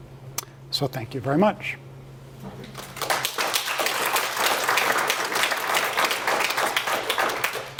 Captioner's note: applause